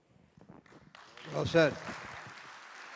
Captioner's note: applause